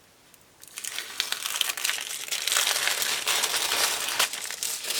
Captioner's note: paper crinkling